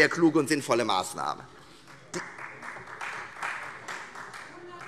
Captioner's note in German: Beifall Freie Demokraten